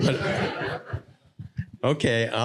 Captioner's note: audience laughing